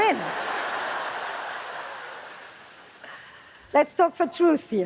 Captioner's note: audience laughs